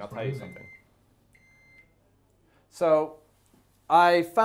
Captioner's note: beeping